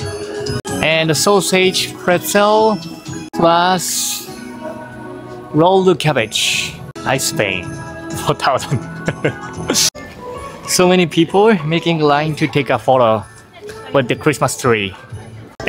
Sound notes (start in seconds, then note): 8.6 chuckles